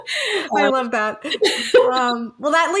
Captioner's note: people laughing